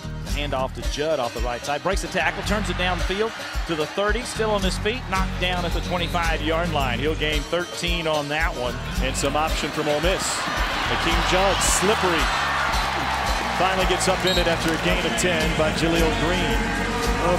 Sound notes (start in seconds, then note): 9.1 crowd cheering